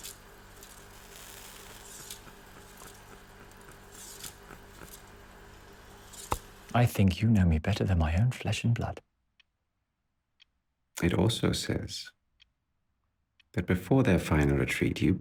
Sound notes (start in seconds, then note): 0.0 reels clicking continues; 0.0 cigarette hisses; 2.6 fingers tapping